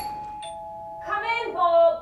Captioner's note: doorbell ringing